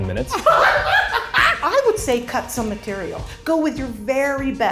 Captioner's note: laughs